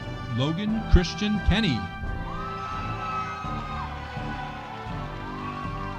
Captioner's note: audience cheering